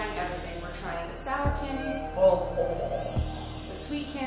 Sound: laughing

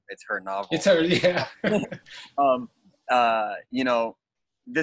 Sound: chuckles

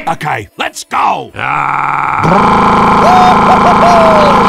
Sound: tank noises

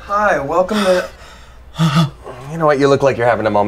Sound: heavy breathing

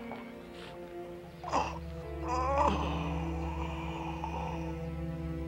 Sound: groaning

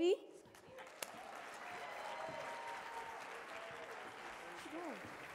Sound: audience cheering

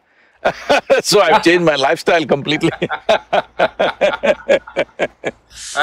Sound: laughs; both laugh

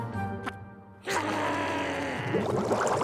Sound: growling

